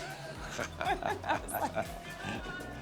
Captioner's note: laughing